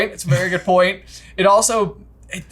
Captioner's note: chuckles